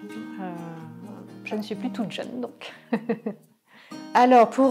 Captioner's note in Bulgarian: смее се